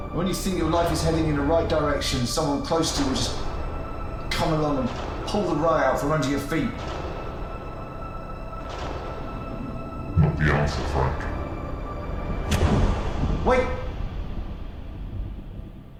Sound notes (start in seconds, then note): 12.5 slam